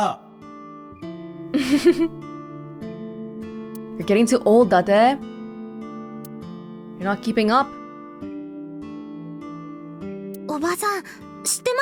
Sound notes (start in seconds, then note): 1.5 chuckles